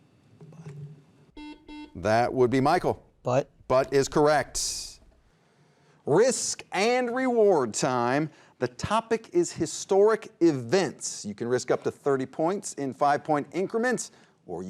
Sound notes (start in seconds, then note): 1.3 beeping